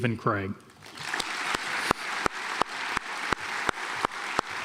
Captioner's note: audience applauds